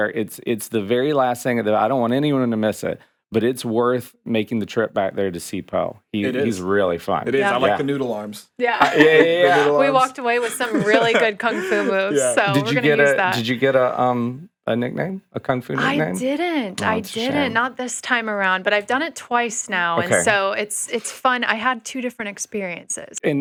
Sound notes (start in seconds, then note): 8.7 laughs; 12.0 laughing